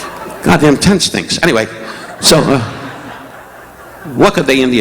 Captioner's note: audience laughing